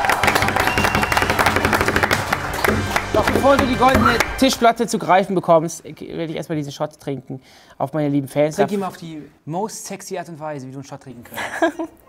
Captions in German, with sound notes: (Jubel, Applaus) Doch bevor du die Goldene Tischplatte zu greifen bekommst, werd ich erst mal diesen Shot trinken. Auf meine lieben Fans. Trink ihn mal auf die most sexy Art und Weise.